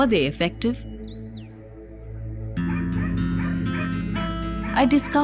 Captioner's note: enigmatic music; birds chirpping; dog barking